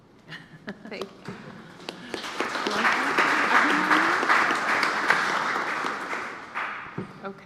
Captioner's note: applause